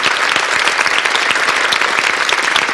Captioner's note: applause